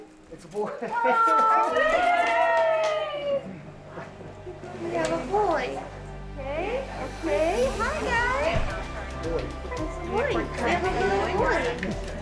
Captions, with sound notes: It's a boy! (team cheering) - We have a boy! - Hi guy! - It's a boy. We have a little boy!